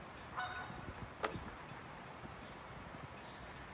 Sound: geese honking in the background

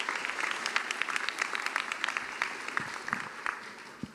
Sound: applause

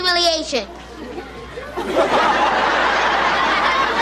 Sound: laughter

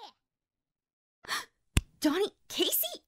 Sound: gasp

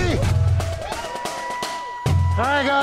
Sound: cheers

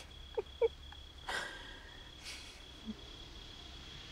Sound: Kristal laughs

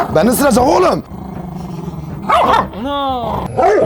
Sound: growling and barking sound

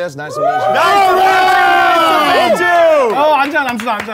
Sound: sound of cheering

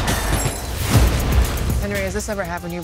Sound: gunfire; explosion

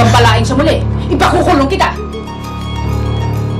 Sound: sobbing

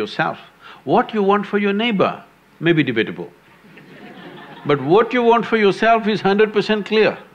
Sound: laughter

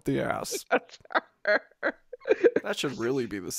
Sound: cackles

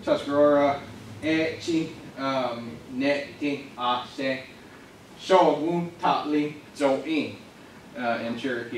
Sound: pronounces words in Native American language

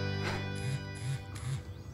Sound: buzz

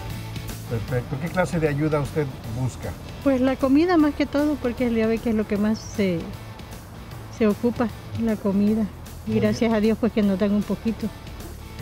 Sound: Spanish

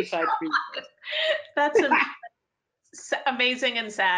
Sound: laughing

